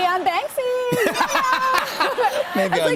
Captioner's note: laughter